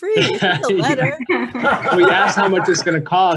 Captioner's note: laughing